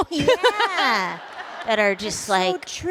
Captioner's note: laughter